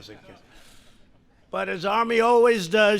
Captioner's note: laughter